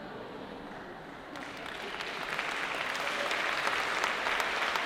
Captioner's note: applause